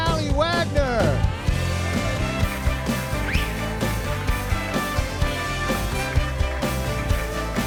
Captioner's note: upbeat music continues; audience applauding